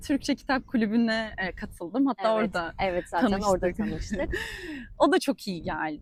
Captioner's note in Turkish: kahkaha